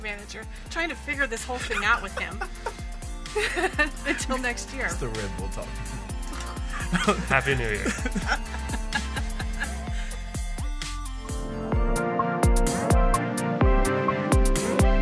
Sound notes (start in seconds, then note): 1.4 laughs; 8.9 laughs; 10.1 upbeat electric music